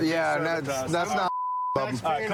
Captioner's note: chatter